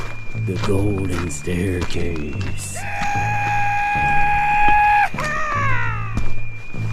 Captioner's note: cowboy Scream Background